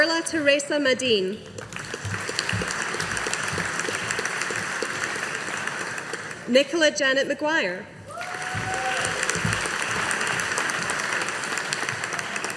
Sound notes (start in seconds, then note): 1.5 audience applauding; 8.1 audience applauding